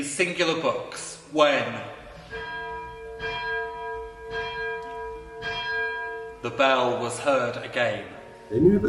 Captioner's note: bell chiming